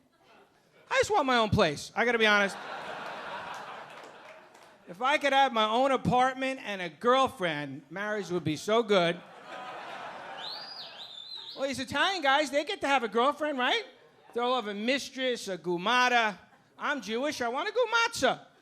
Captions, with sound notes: I just want my own place. I gotta be honest. (audience laughing) If I could have my own apartment and a girlfriend, marriage would be so good. (audience laughing) All these Italian guys, they get to have a girlfriend, right? Throw up a mistress, a gumada. I'm Jewish. I want a gu-matzah.